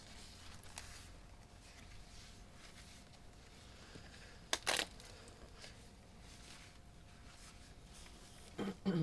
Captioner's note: paper shuffling; ripping paper